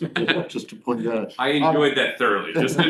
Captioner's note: laughter